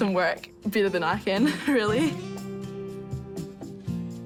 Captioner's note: chuckles